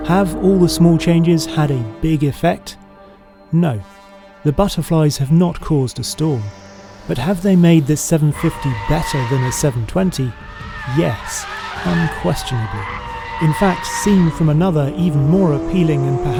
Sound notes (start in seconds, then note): 11.0 tires screeching